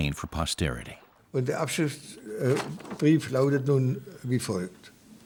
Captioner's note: German spoken audio